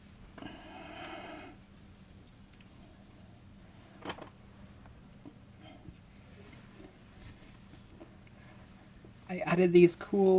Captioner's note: fabric rustling, breathing